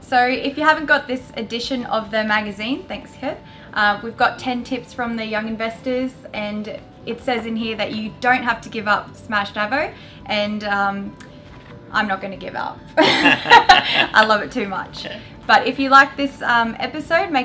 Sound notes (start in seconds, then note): 13.0 laugh